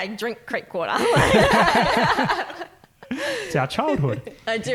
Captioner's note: laughing